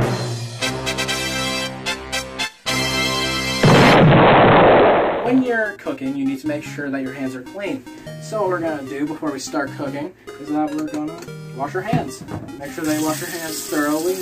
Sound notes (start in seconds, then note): 0.1 fanfare plays; 3.6 explosion noise